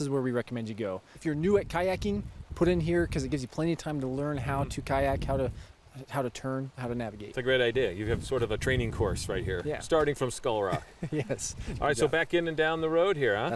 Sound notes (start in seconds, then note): 10.6 laughs